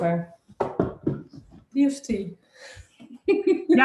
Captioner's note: they laugh